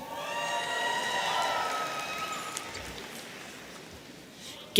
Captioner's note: audience cheering